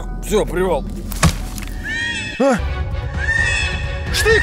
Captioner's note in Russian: крики; крик на заднем плане